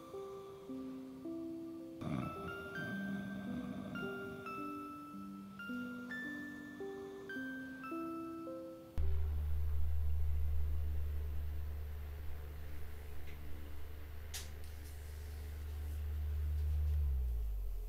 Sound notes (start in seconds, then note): 2.0 snoring; 4.8 soft music; 9.0 fan humming